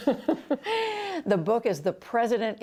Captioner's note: laughter